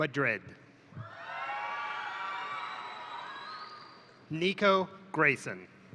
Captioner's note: crowd cheering; crowd applauding